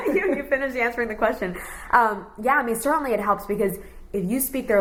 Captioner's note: laughs